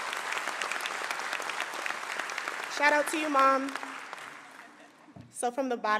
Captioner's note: applause